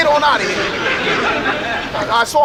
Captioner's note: audience laughs